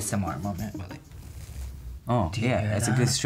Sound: rustles gently

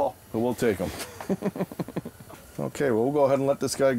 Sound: laughing

